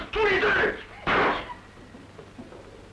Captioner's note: gunshot